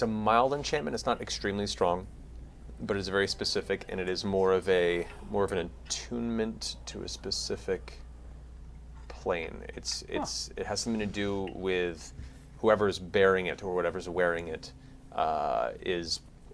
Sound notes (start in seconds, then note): none